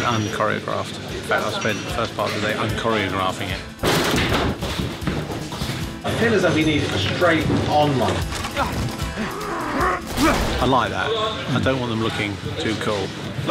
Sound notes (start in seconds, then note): 8.6 GRUNTlNG